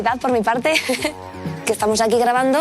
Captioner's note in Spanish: Risas